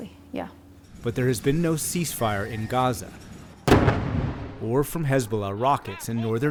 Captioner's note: voice-over